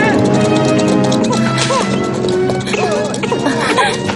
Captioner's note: speaking native language; baby crying; woman gasps